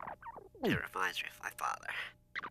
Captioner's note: playing in fast rewind